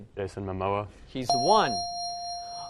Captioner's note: dinging